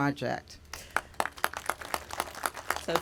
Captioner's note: applause